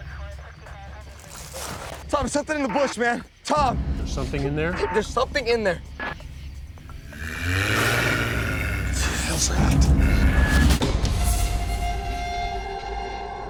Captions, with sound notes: [ RUSTLING ] TOM, THERE'S SOMETHING IN THE BUSH, MAN. TOM! THERE'S SOMETHING IN THERE? THERE'S SOMETHING IN THERE. [ GROWLS ] WHAT THE HELL'S THAT?